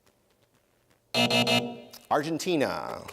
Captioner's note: buzzer